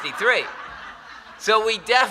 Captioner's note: laughter